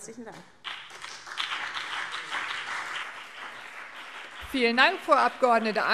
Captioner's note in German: Beifall CDU und BÜNDNIS 90/DIE GRÜNEN